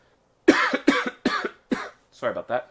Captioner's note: coughing